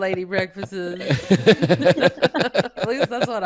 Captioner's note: everyone laughing